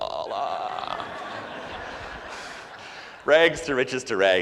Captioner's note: audience laughs hard